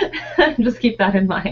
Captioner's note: laughing